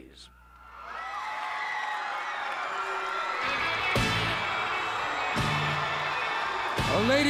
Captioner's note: crowd cheering